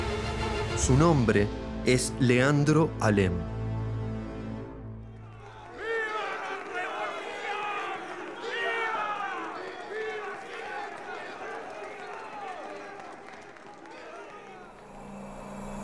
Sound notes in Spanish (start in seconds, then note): 5.9 Voz de hombre; 14.8 Música de suspenso